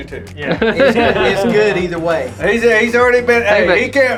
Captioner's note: laughs